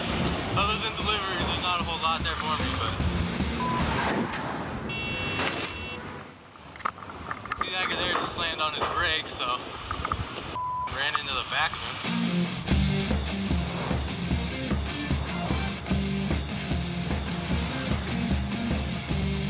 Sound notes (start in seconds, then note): 4.9 thud, car horn honks, glass shatters